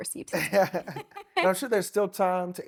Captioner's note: laughing